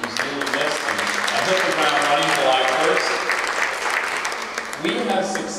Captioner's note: applause